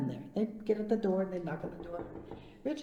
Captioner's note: imitating knocking